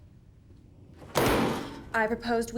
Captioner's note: table bangs